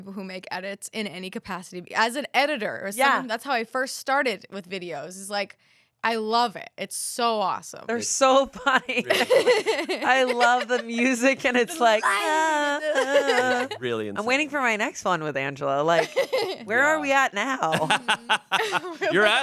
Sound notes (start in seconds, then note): 8.9 everyone laughs; 11.4 vocalizes; 17.7 everyone laughs